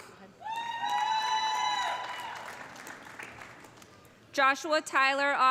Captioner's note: audience cheering; audience applauding